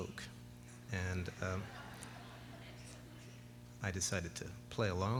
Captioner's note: laughter